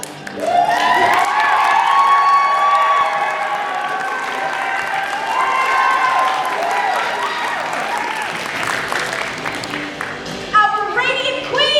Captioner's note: cheering